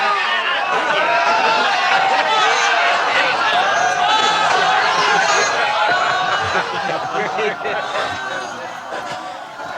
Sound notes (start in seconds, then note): 4.0 laughing continues